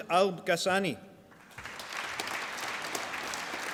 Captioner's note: applause